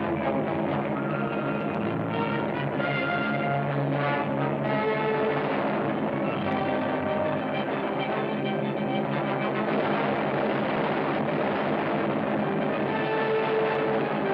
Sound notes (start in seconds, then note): 3.8 explosion; 8.6 loud explosions